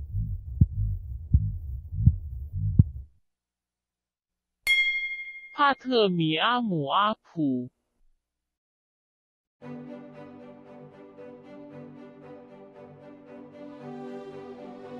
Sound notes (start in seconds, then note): 4.6 bell; 7.7 non-english speech